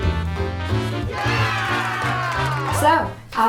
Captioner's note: upbeat jazz music; people cheering